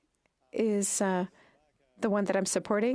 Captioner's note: speaking French